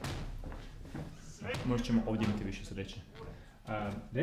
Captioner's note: background noises of anguish; thinking noise